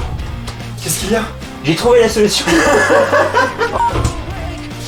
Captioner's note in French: rires